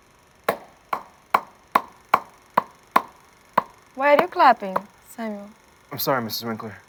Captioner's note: clapping